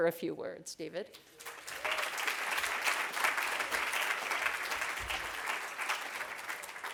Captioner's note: clapping